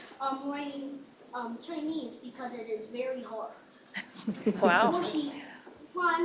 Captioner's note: speaking foreign language